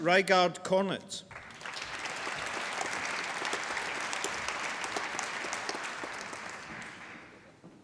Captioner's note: applause